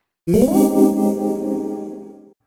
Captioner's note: ethereal zing - Toilets